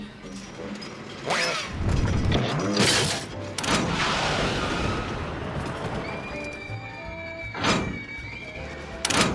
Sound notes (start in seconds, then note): 6.0 riders screaming